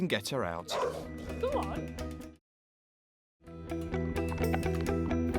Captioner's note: dog barking; upbeat music